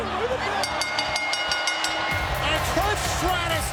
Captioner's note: bell rings